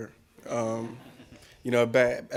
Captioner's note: laughing